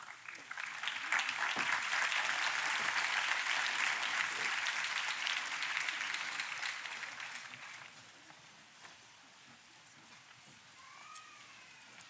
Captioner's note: applause